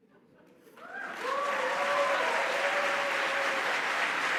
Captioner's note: applause